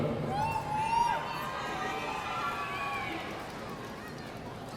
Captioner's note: audience cheering